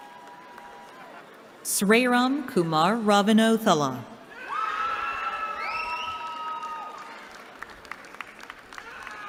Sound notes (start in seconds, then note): 4.3 cheering